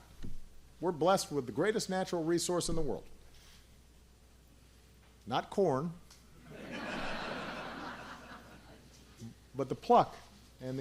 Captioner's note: laughter